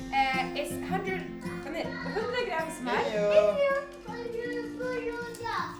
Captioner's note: family happily chatting in Swedish